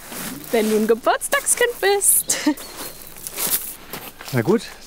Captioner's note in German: freudig